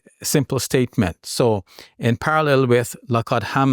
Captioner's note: speaks Arabic